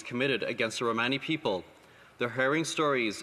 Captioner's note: speaking alternate language